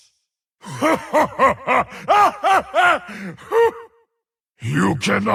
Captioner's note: laughs